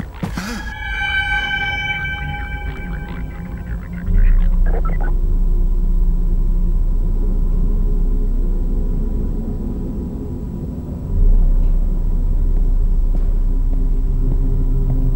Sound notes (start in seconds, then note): 0.3 gasp